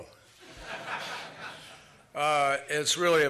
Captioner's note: laughter